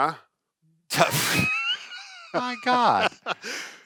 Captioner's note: laughs